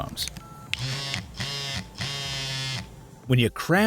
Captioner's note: phone vibrating